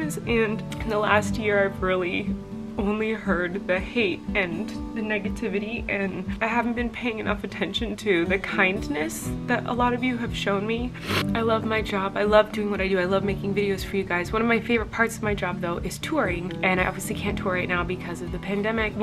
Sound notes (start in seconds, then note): 11.0 sniffling